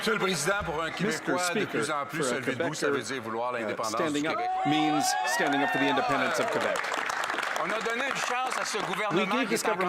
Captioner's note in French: applaudissements